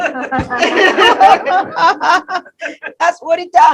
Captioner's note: laughter